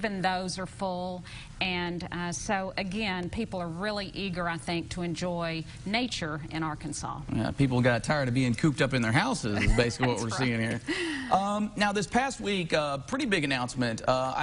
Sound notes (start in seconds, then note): 11.0 chuckling